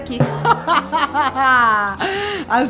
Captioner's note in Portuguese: risadas